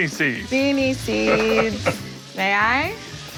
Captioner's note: laughs